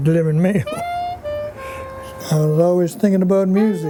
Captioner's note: chuckles